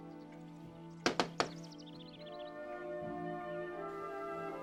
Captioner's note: hand knocking